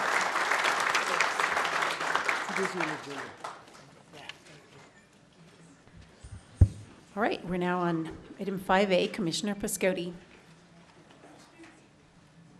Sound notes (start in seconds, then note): 4.4 applause